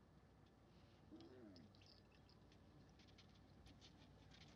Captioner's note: camel grunting